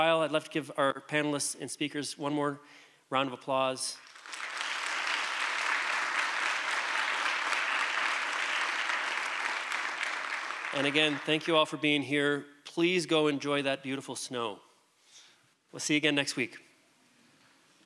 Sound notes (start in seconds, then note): 3.9 applause